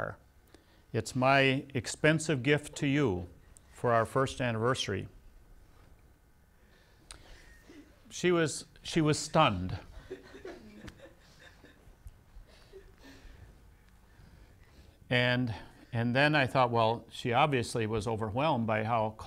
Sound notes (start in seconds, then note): 6.3 laughs